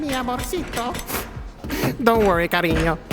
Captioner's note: sad sniff